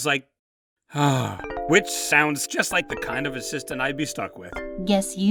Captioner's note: sigh